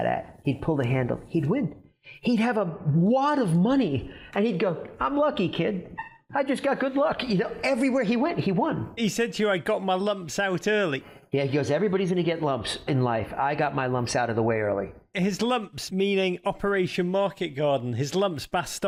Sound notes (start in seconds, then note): none